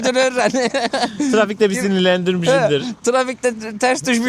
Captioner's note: laughs